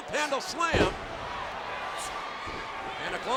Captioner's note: feet thud